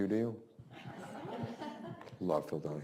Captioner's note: students laughs